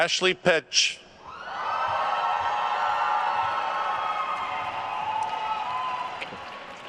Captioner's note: attendees cheering and applauding